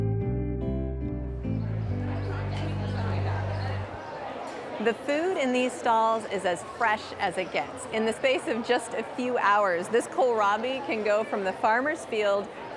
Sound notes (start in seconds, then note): 2.6 crowd chatter